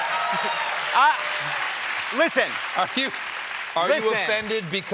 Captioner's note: cheers and applause